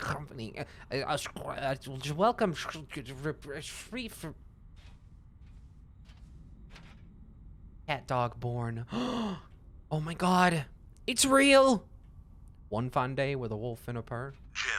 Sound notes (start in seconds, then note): 0.2 imitating voice becoming fuzzy; 9.6 gasps